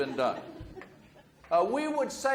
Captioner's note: audience laughs